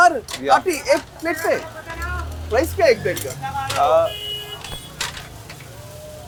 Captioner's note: host and cook speak foreign language